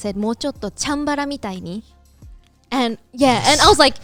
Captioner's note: speaking in Japanese